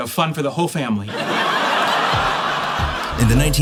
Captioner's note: laughter